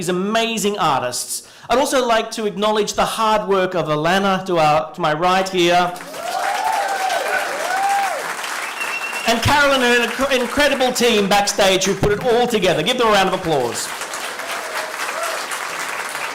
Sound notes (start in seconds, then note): 6.0 cheering and applause; 13.2 applause